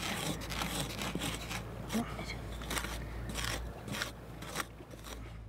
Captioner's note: scraping